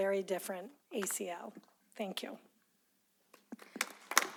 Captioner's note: applause